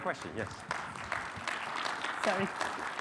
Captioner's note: audience applauding